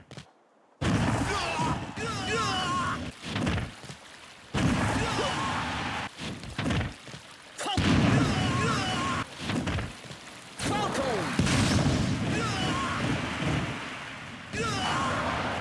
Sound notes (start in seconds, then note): 2.0 explosion of pain; 3.0 slip